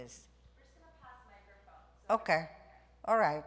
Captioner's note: producer speaking faintly